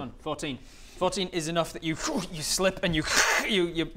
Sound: pffph

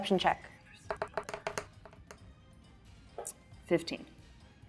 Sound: die rolling

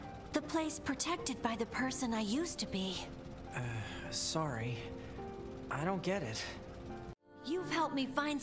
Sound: none

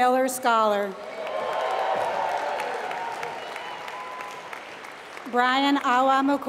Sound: applause

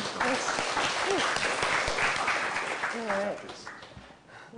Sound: applause

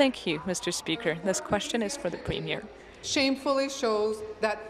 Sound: speaking in french

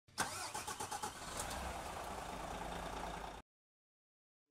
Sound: car engine roaring

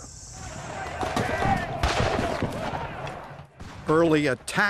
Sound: guns fire

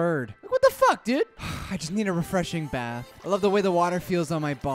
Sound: sigh

